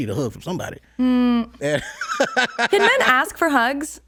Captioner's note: laughs